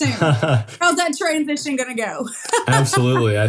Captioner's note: laugh